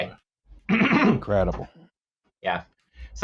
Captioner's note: clears throat